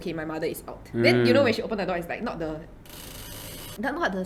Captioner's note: creak creak